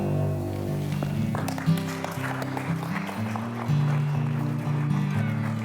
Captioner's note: applause